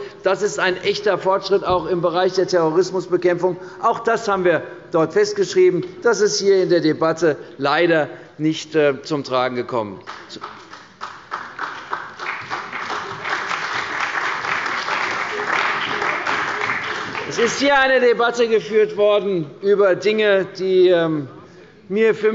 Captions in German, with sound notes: Das ist ein echter Fortschritt, auch bei der Terrorismusbekämpfung. Auch das haben wir dort festgeschrieben. Das ist in dieser Debatte leider nicht zum Tragen gekommen. (Beifall bei der CDU und dem BÜNDNIS 90/DIE GRÜNEN) Es ist hier eine Debatte über Dinge geführt worden, die für